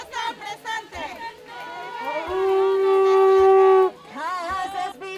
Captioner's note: horn sounds loudly